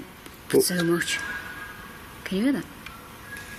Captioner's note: whistling